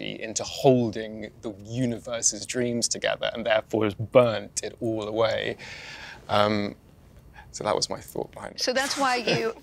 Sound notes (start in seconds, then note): 8.9 laughs